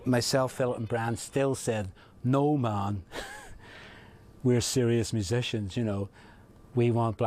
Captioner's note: chuckles